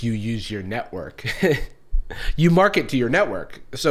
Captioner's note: weakly laughs